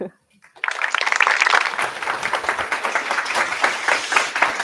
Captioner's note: applause